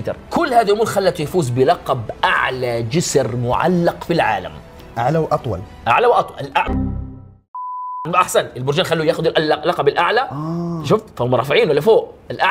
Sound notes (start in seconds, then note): 7.1 error sound